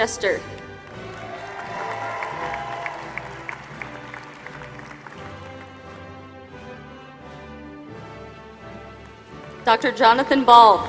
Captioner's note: applause; applause